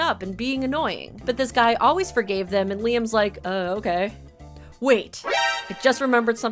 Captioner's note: Metal Gear ALERT sound